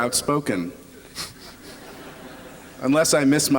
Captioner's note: laughter